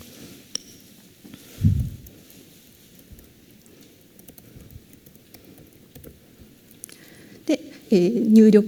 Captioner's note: silence